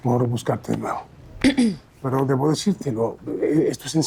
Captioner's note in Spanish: aclara garganta